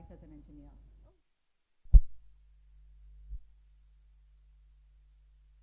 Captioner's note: audio cuts out